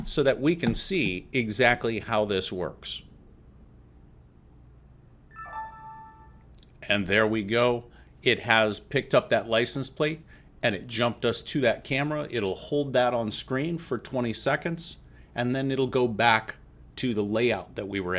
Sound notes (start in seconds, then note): 5.3 chime